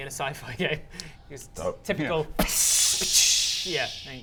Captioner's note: psssssh